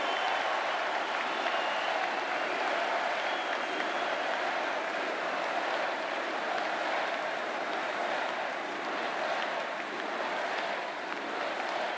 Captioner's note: cheering and Applause